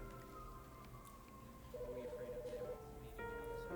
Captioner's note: siren wails in distance; office telephone ringing